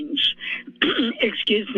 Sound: clears throat

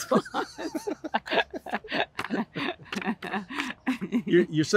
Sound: continued laughter

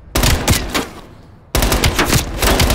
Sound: gunshots

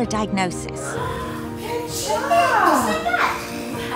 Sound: gasps; person laughs

